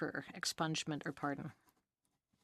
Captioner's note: speaking French